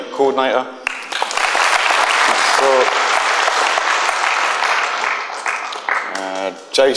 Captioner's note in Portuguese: Aplausos